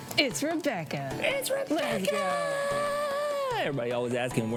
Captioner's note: shouts